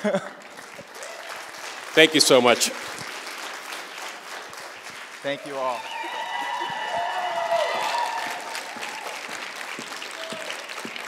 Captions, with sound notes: Thank you so much. Thank you all. [APPLAUSE]